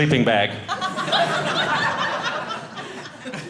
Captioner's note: audience laughing